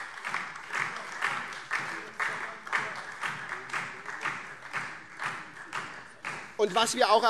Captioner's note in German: Beifall SPD und DIE LINKE